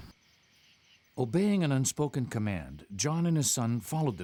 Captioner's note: voiceover